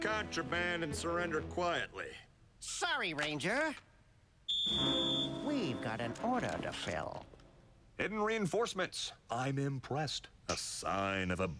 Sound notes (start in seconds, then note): 4.4 blows whistle